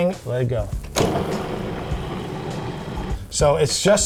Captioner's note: mushroom grinding